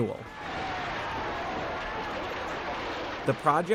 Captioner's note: bulldozers roaring